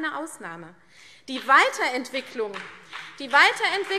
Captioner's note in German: Beifall CDU und BÜNDNIS 90/DIE GRÜNEN